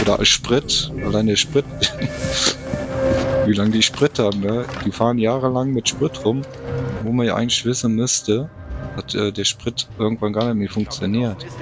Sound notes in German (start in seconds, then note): 0.0 schnauben